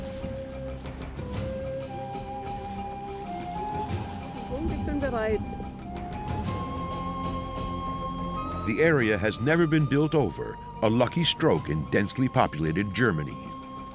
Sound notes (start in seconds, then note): 4.8 speaking German